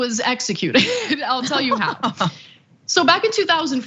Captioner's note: laugh